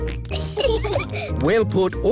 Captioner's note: peppa and george giggling